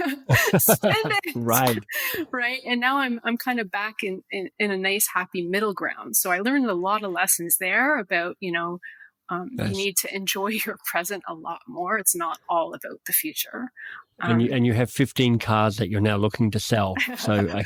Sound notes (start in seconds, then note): 0.0 laugh